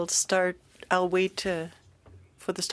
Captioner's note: speaking French